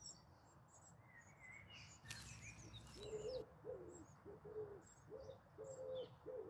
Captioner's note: birds chirping in distance